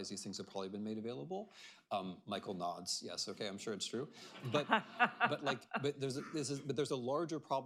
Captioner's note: laughter